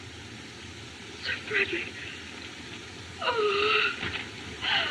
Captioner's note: moans